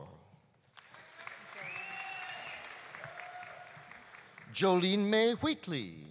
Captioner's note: audience applauding; audience cheering